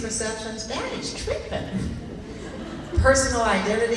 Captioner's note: laughing